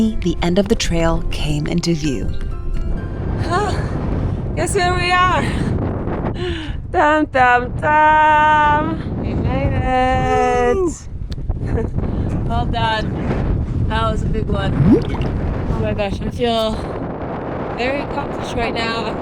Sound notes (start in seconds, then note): 2.5 bright music; 3.8 wind whooshing; 11.5 wind whooshing